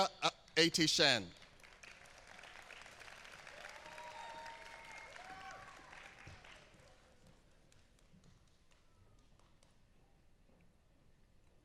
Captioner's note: applause